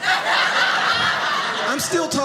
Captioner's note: audience laughing